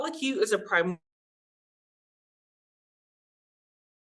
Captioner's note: audio cuts out